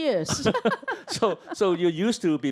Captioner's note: both laugh